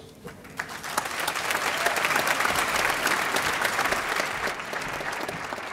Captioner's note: audience applauding